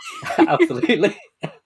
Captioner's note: laughing